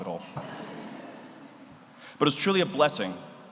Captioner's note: audience laughs